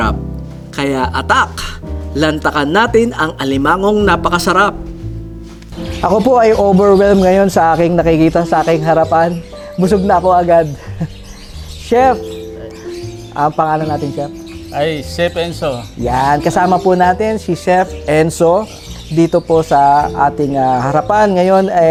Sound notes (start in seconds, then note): 10.7 laugh